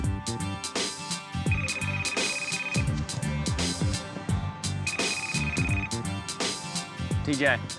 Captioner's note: cell phone rings